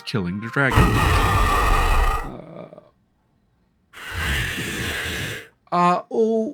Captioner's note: dragon roars